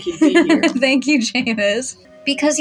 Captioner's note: giggle